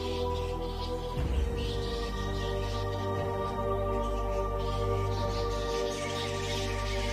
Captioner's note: mysterious music; bats squeaking